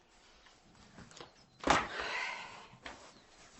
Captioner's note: anneta groans